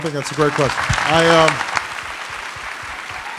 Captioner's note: applause